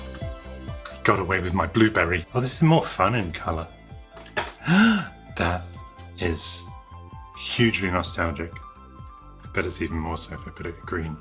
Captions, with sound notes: Got away with my blueberry! Oh this is more fun in color! [Gasps] That... is... hugely nostalgic. But it's even more so if I put it green.